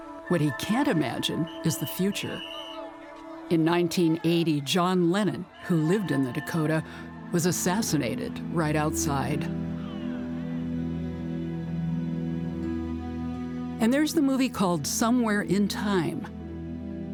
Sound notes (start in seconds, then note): 3.1 whistle blowing; 10.0 somber music